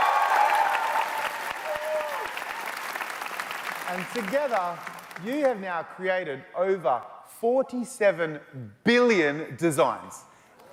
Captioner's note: cheers and Applause